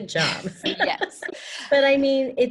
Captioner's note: laughs